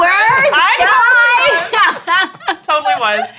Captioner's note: laughing